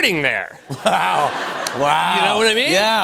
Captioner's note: laughter